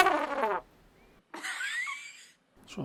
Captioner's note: laughing